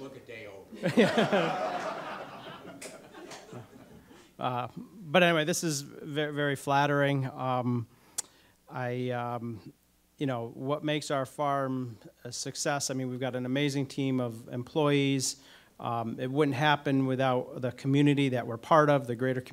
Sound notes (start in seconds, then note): 0.0 audience applause; 0.7 audience laughter